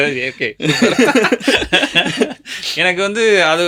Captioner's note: laughter